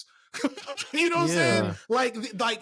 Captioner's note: laughing